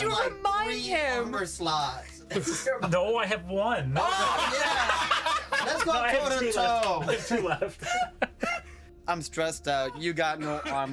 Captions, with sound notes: Wait, one second. Targets. Plus six. 21. 21. Oh, just got it. Hell yeah. Yeah. Thank you, Chaplin. (laughing) I had a good one, yeah.